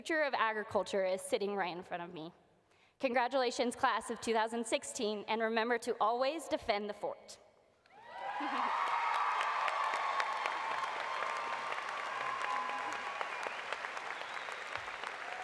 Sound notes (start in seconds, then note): 9.3 applause